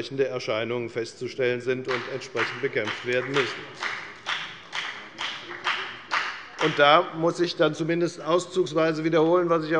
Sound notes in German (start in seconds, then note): 4.1 Beifall bei der FDP